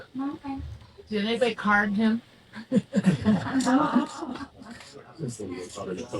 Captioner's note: laughing